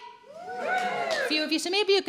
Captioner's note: light cheering